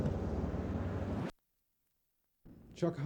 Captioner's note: silence